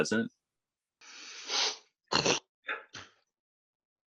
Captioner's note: sneezing